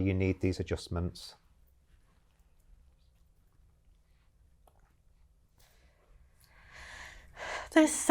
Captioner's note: silence while the question is translated